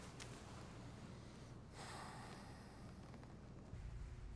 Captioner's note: sighs